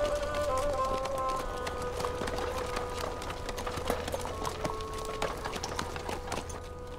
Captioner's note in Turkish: At Ayak Sesleri